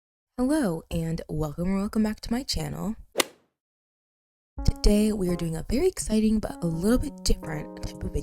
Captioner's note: golf hit sound effect